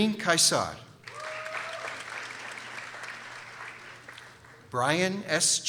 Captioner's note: people applauding